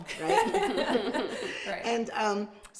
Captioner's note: laughing